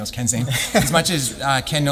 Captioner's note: laughs